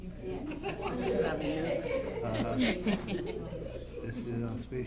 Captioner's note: audience laughing